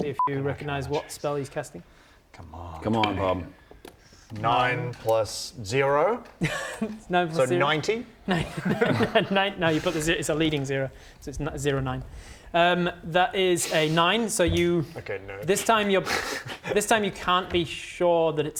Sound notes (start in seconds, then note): 6.3 laughs